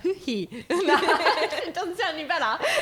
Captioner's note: laughing